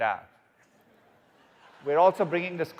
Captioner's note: audience laughing